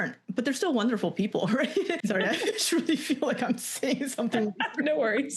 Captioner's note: laughter